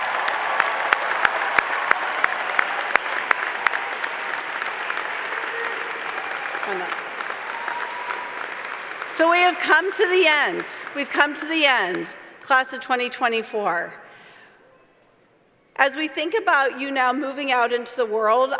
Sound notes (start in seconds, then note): 5.3 applause